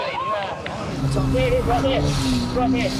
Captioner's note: people shriek and laugh